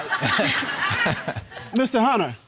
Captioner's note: audience laughing